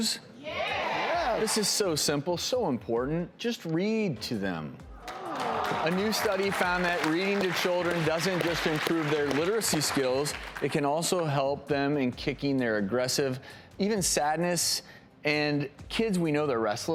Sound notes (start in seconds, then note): 5.0 audience applauding